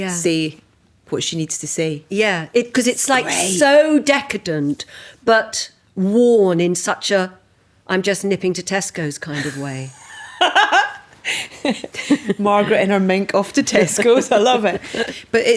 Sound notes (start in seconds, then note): 10.0 laughing